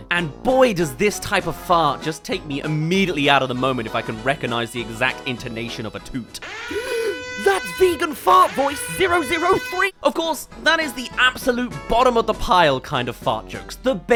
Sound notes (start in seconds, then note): 6.7 gasp